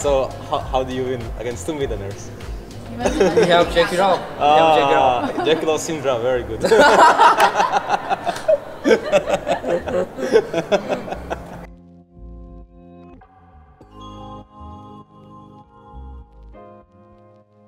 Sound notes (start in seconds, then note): 6.6 giggling